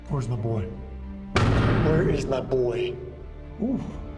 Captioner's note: hits the door